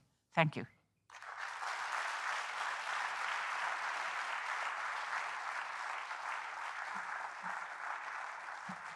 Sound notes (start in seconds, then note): 1.1 audience applauding